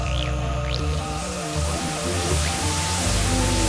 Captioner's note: static